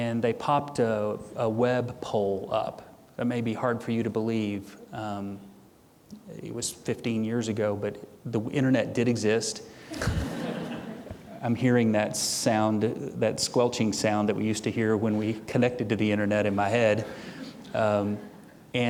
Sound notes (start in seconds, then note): 9.9 audience chuckling